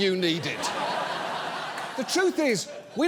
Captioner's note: audience laughs